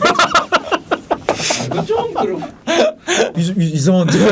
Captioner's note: laughing